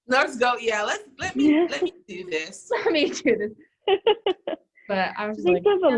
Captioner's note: laughter